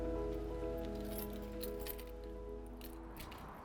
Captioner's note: keys jingle; key turns in lock